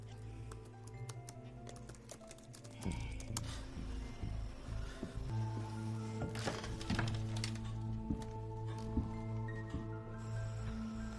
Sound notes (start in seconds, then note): 2.3 typing